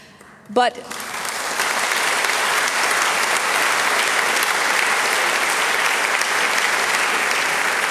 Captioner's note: applause